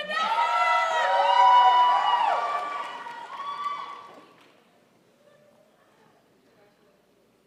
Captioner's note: crowd applauds